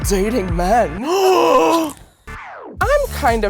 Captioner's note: gasps